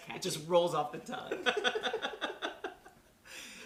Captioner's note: laughter